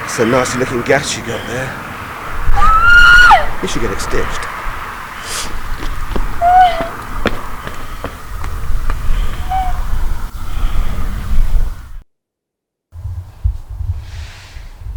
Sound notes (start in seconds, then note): 6.4 girl whimpers